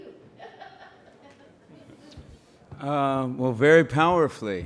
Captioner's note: laughs